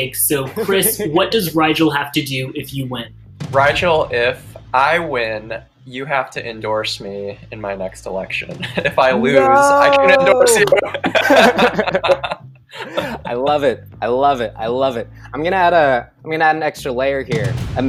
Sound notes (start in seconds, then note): 9.8 all chuckling